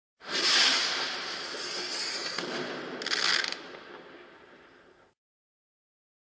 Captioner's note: firecracker sounds